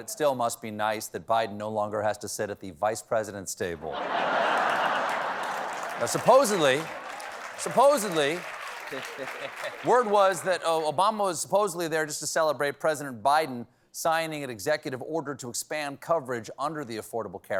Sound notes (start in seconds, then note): 3.8 laughter; 4.2 applause